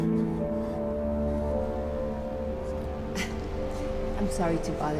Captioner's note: rigid breathing